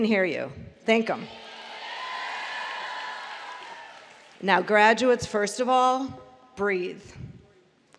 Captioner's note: applause